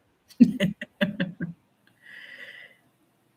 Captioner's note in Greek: γέλια